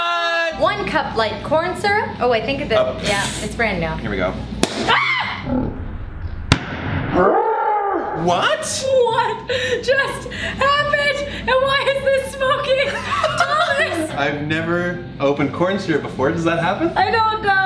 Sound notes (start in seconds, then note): 4.7 dramatic pop and frightened Noise